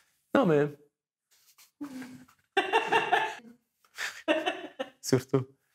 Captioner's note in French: rires